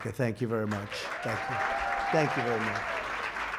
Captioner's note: applause